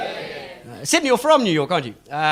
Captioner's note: people cheer